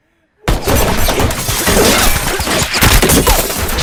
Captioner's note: gunshots